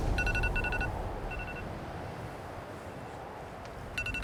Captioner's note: phone rings